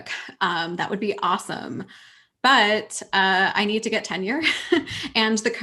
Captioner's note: chuckles